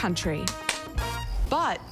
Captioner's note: slaps